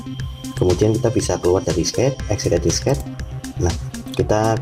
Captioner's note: click